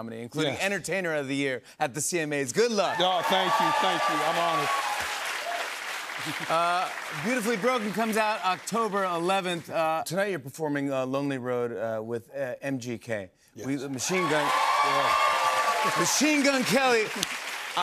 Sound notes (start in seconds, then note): 2.8 cheers and applause; 13.8 cheers and applause